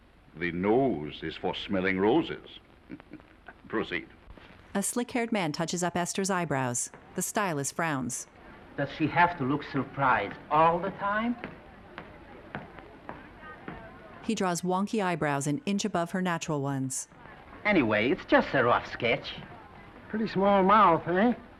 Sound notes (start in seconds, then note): 2.9 man chuckling; 4.2 footsteps approaching